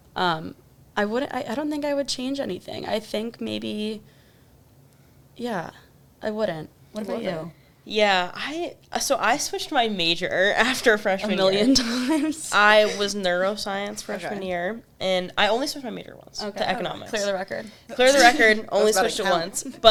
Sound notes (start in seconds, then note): 10.6 laughs; 18.6 chuckles